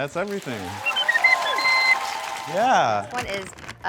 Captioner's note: cheers, applause, whistle sounds